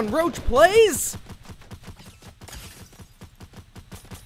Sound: gunshots

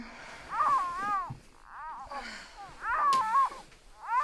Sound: baby crying

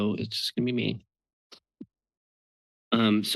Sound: pause

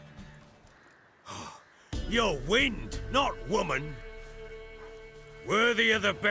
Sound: pant

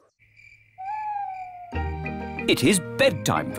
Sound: crickets chirping

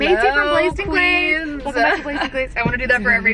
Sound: laughs

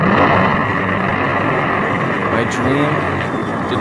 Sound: crashing

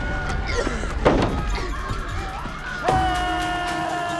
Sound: Misty coughing

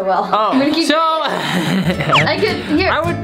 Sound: laughs

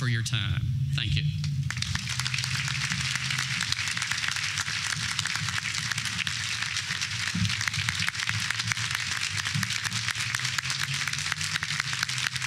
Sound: applause

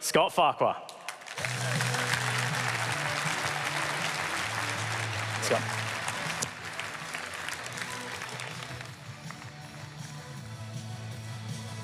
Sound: applause

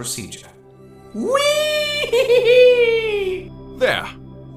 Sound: whee!

